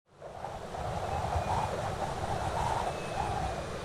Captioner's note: wind rushing